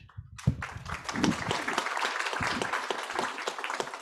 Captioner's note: audience applauds